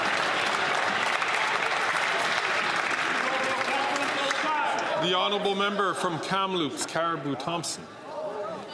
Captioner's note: applause